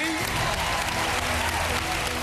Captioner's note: cheering